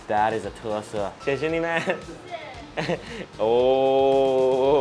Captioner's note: speaking foreign language